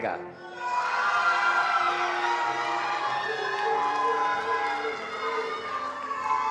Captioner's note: attendees cheering and applauding